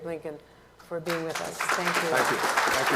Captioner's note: applause